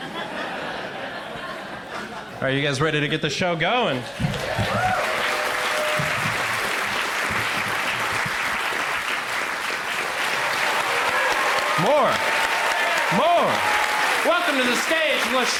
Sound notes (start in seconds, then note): 0.0 crowd laughs; 4.8 crowd applauds loudly; 13.7 applause continues